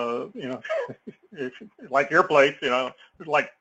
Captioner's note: laugh